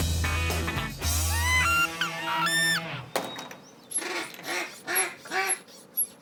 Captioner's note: duck calls sounding